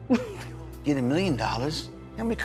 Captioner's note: Lolita chuckles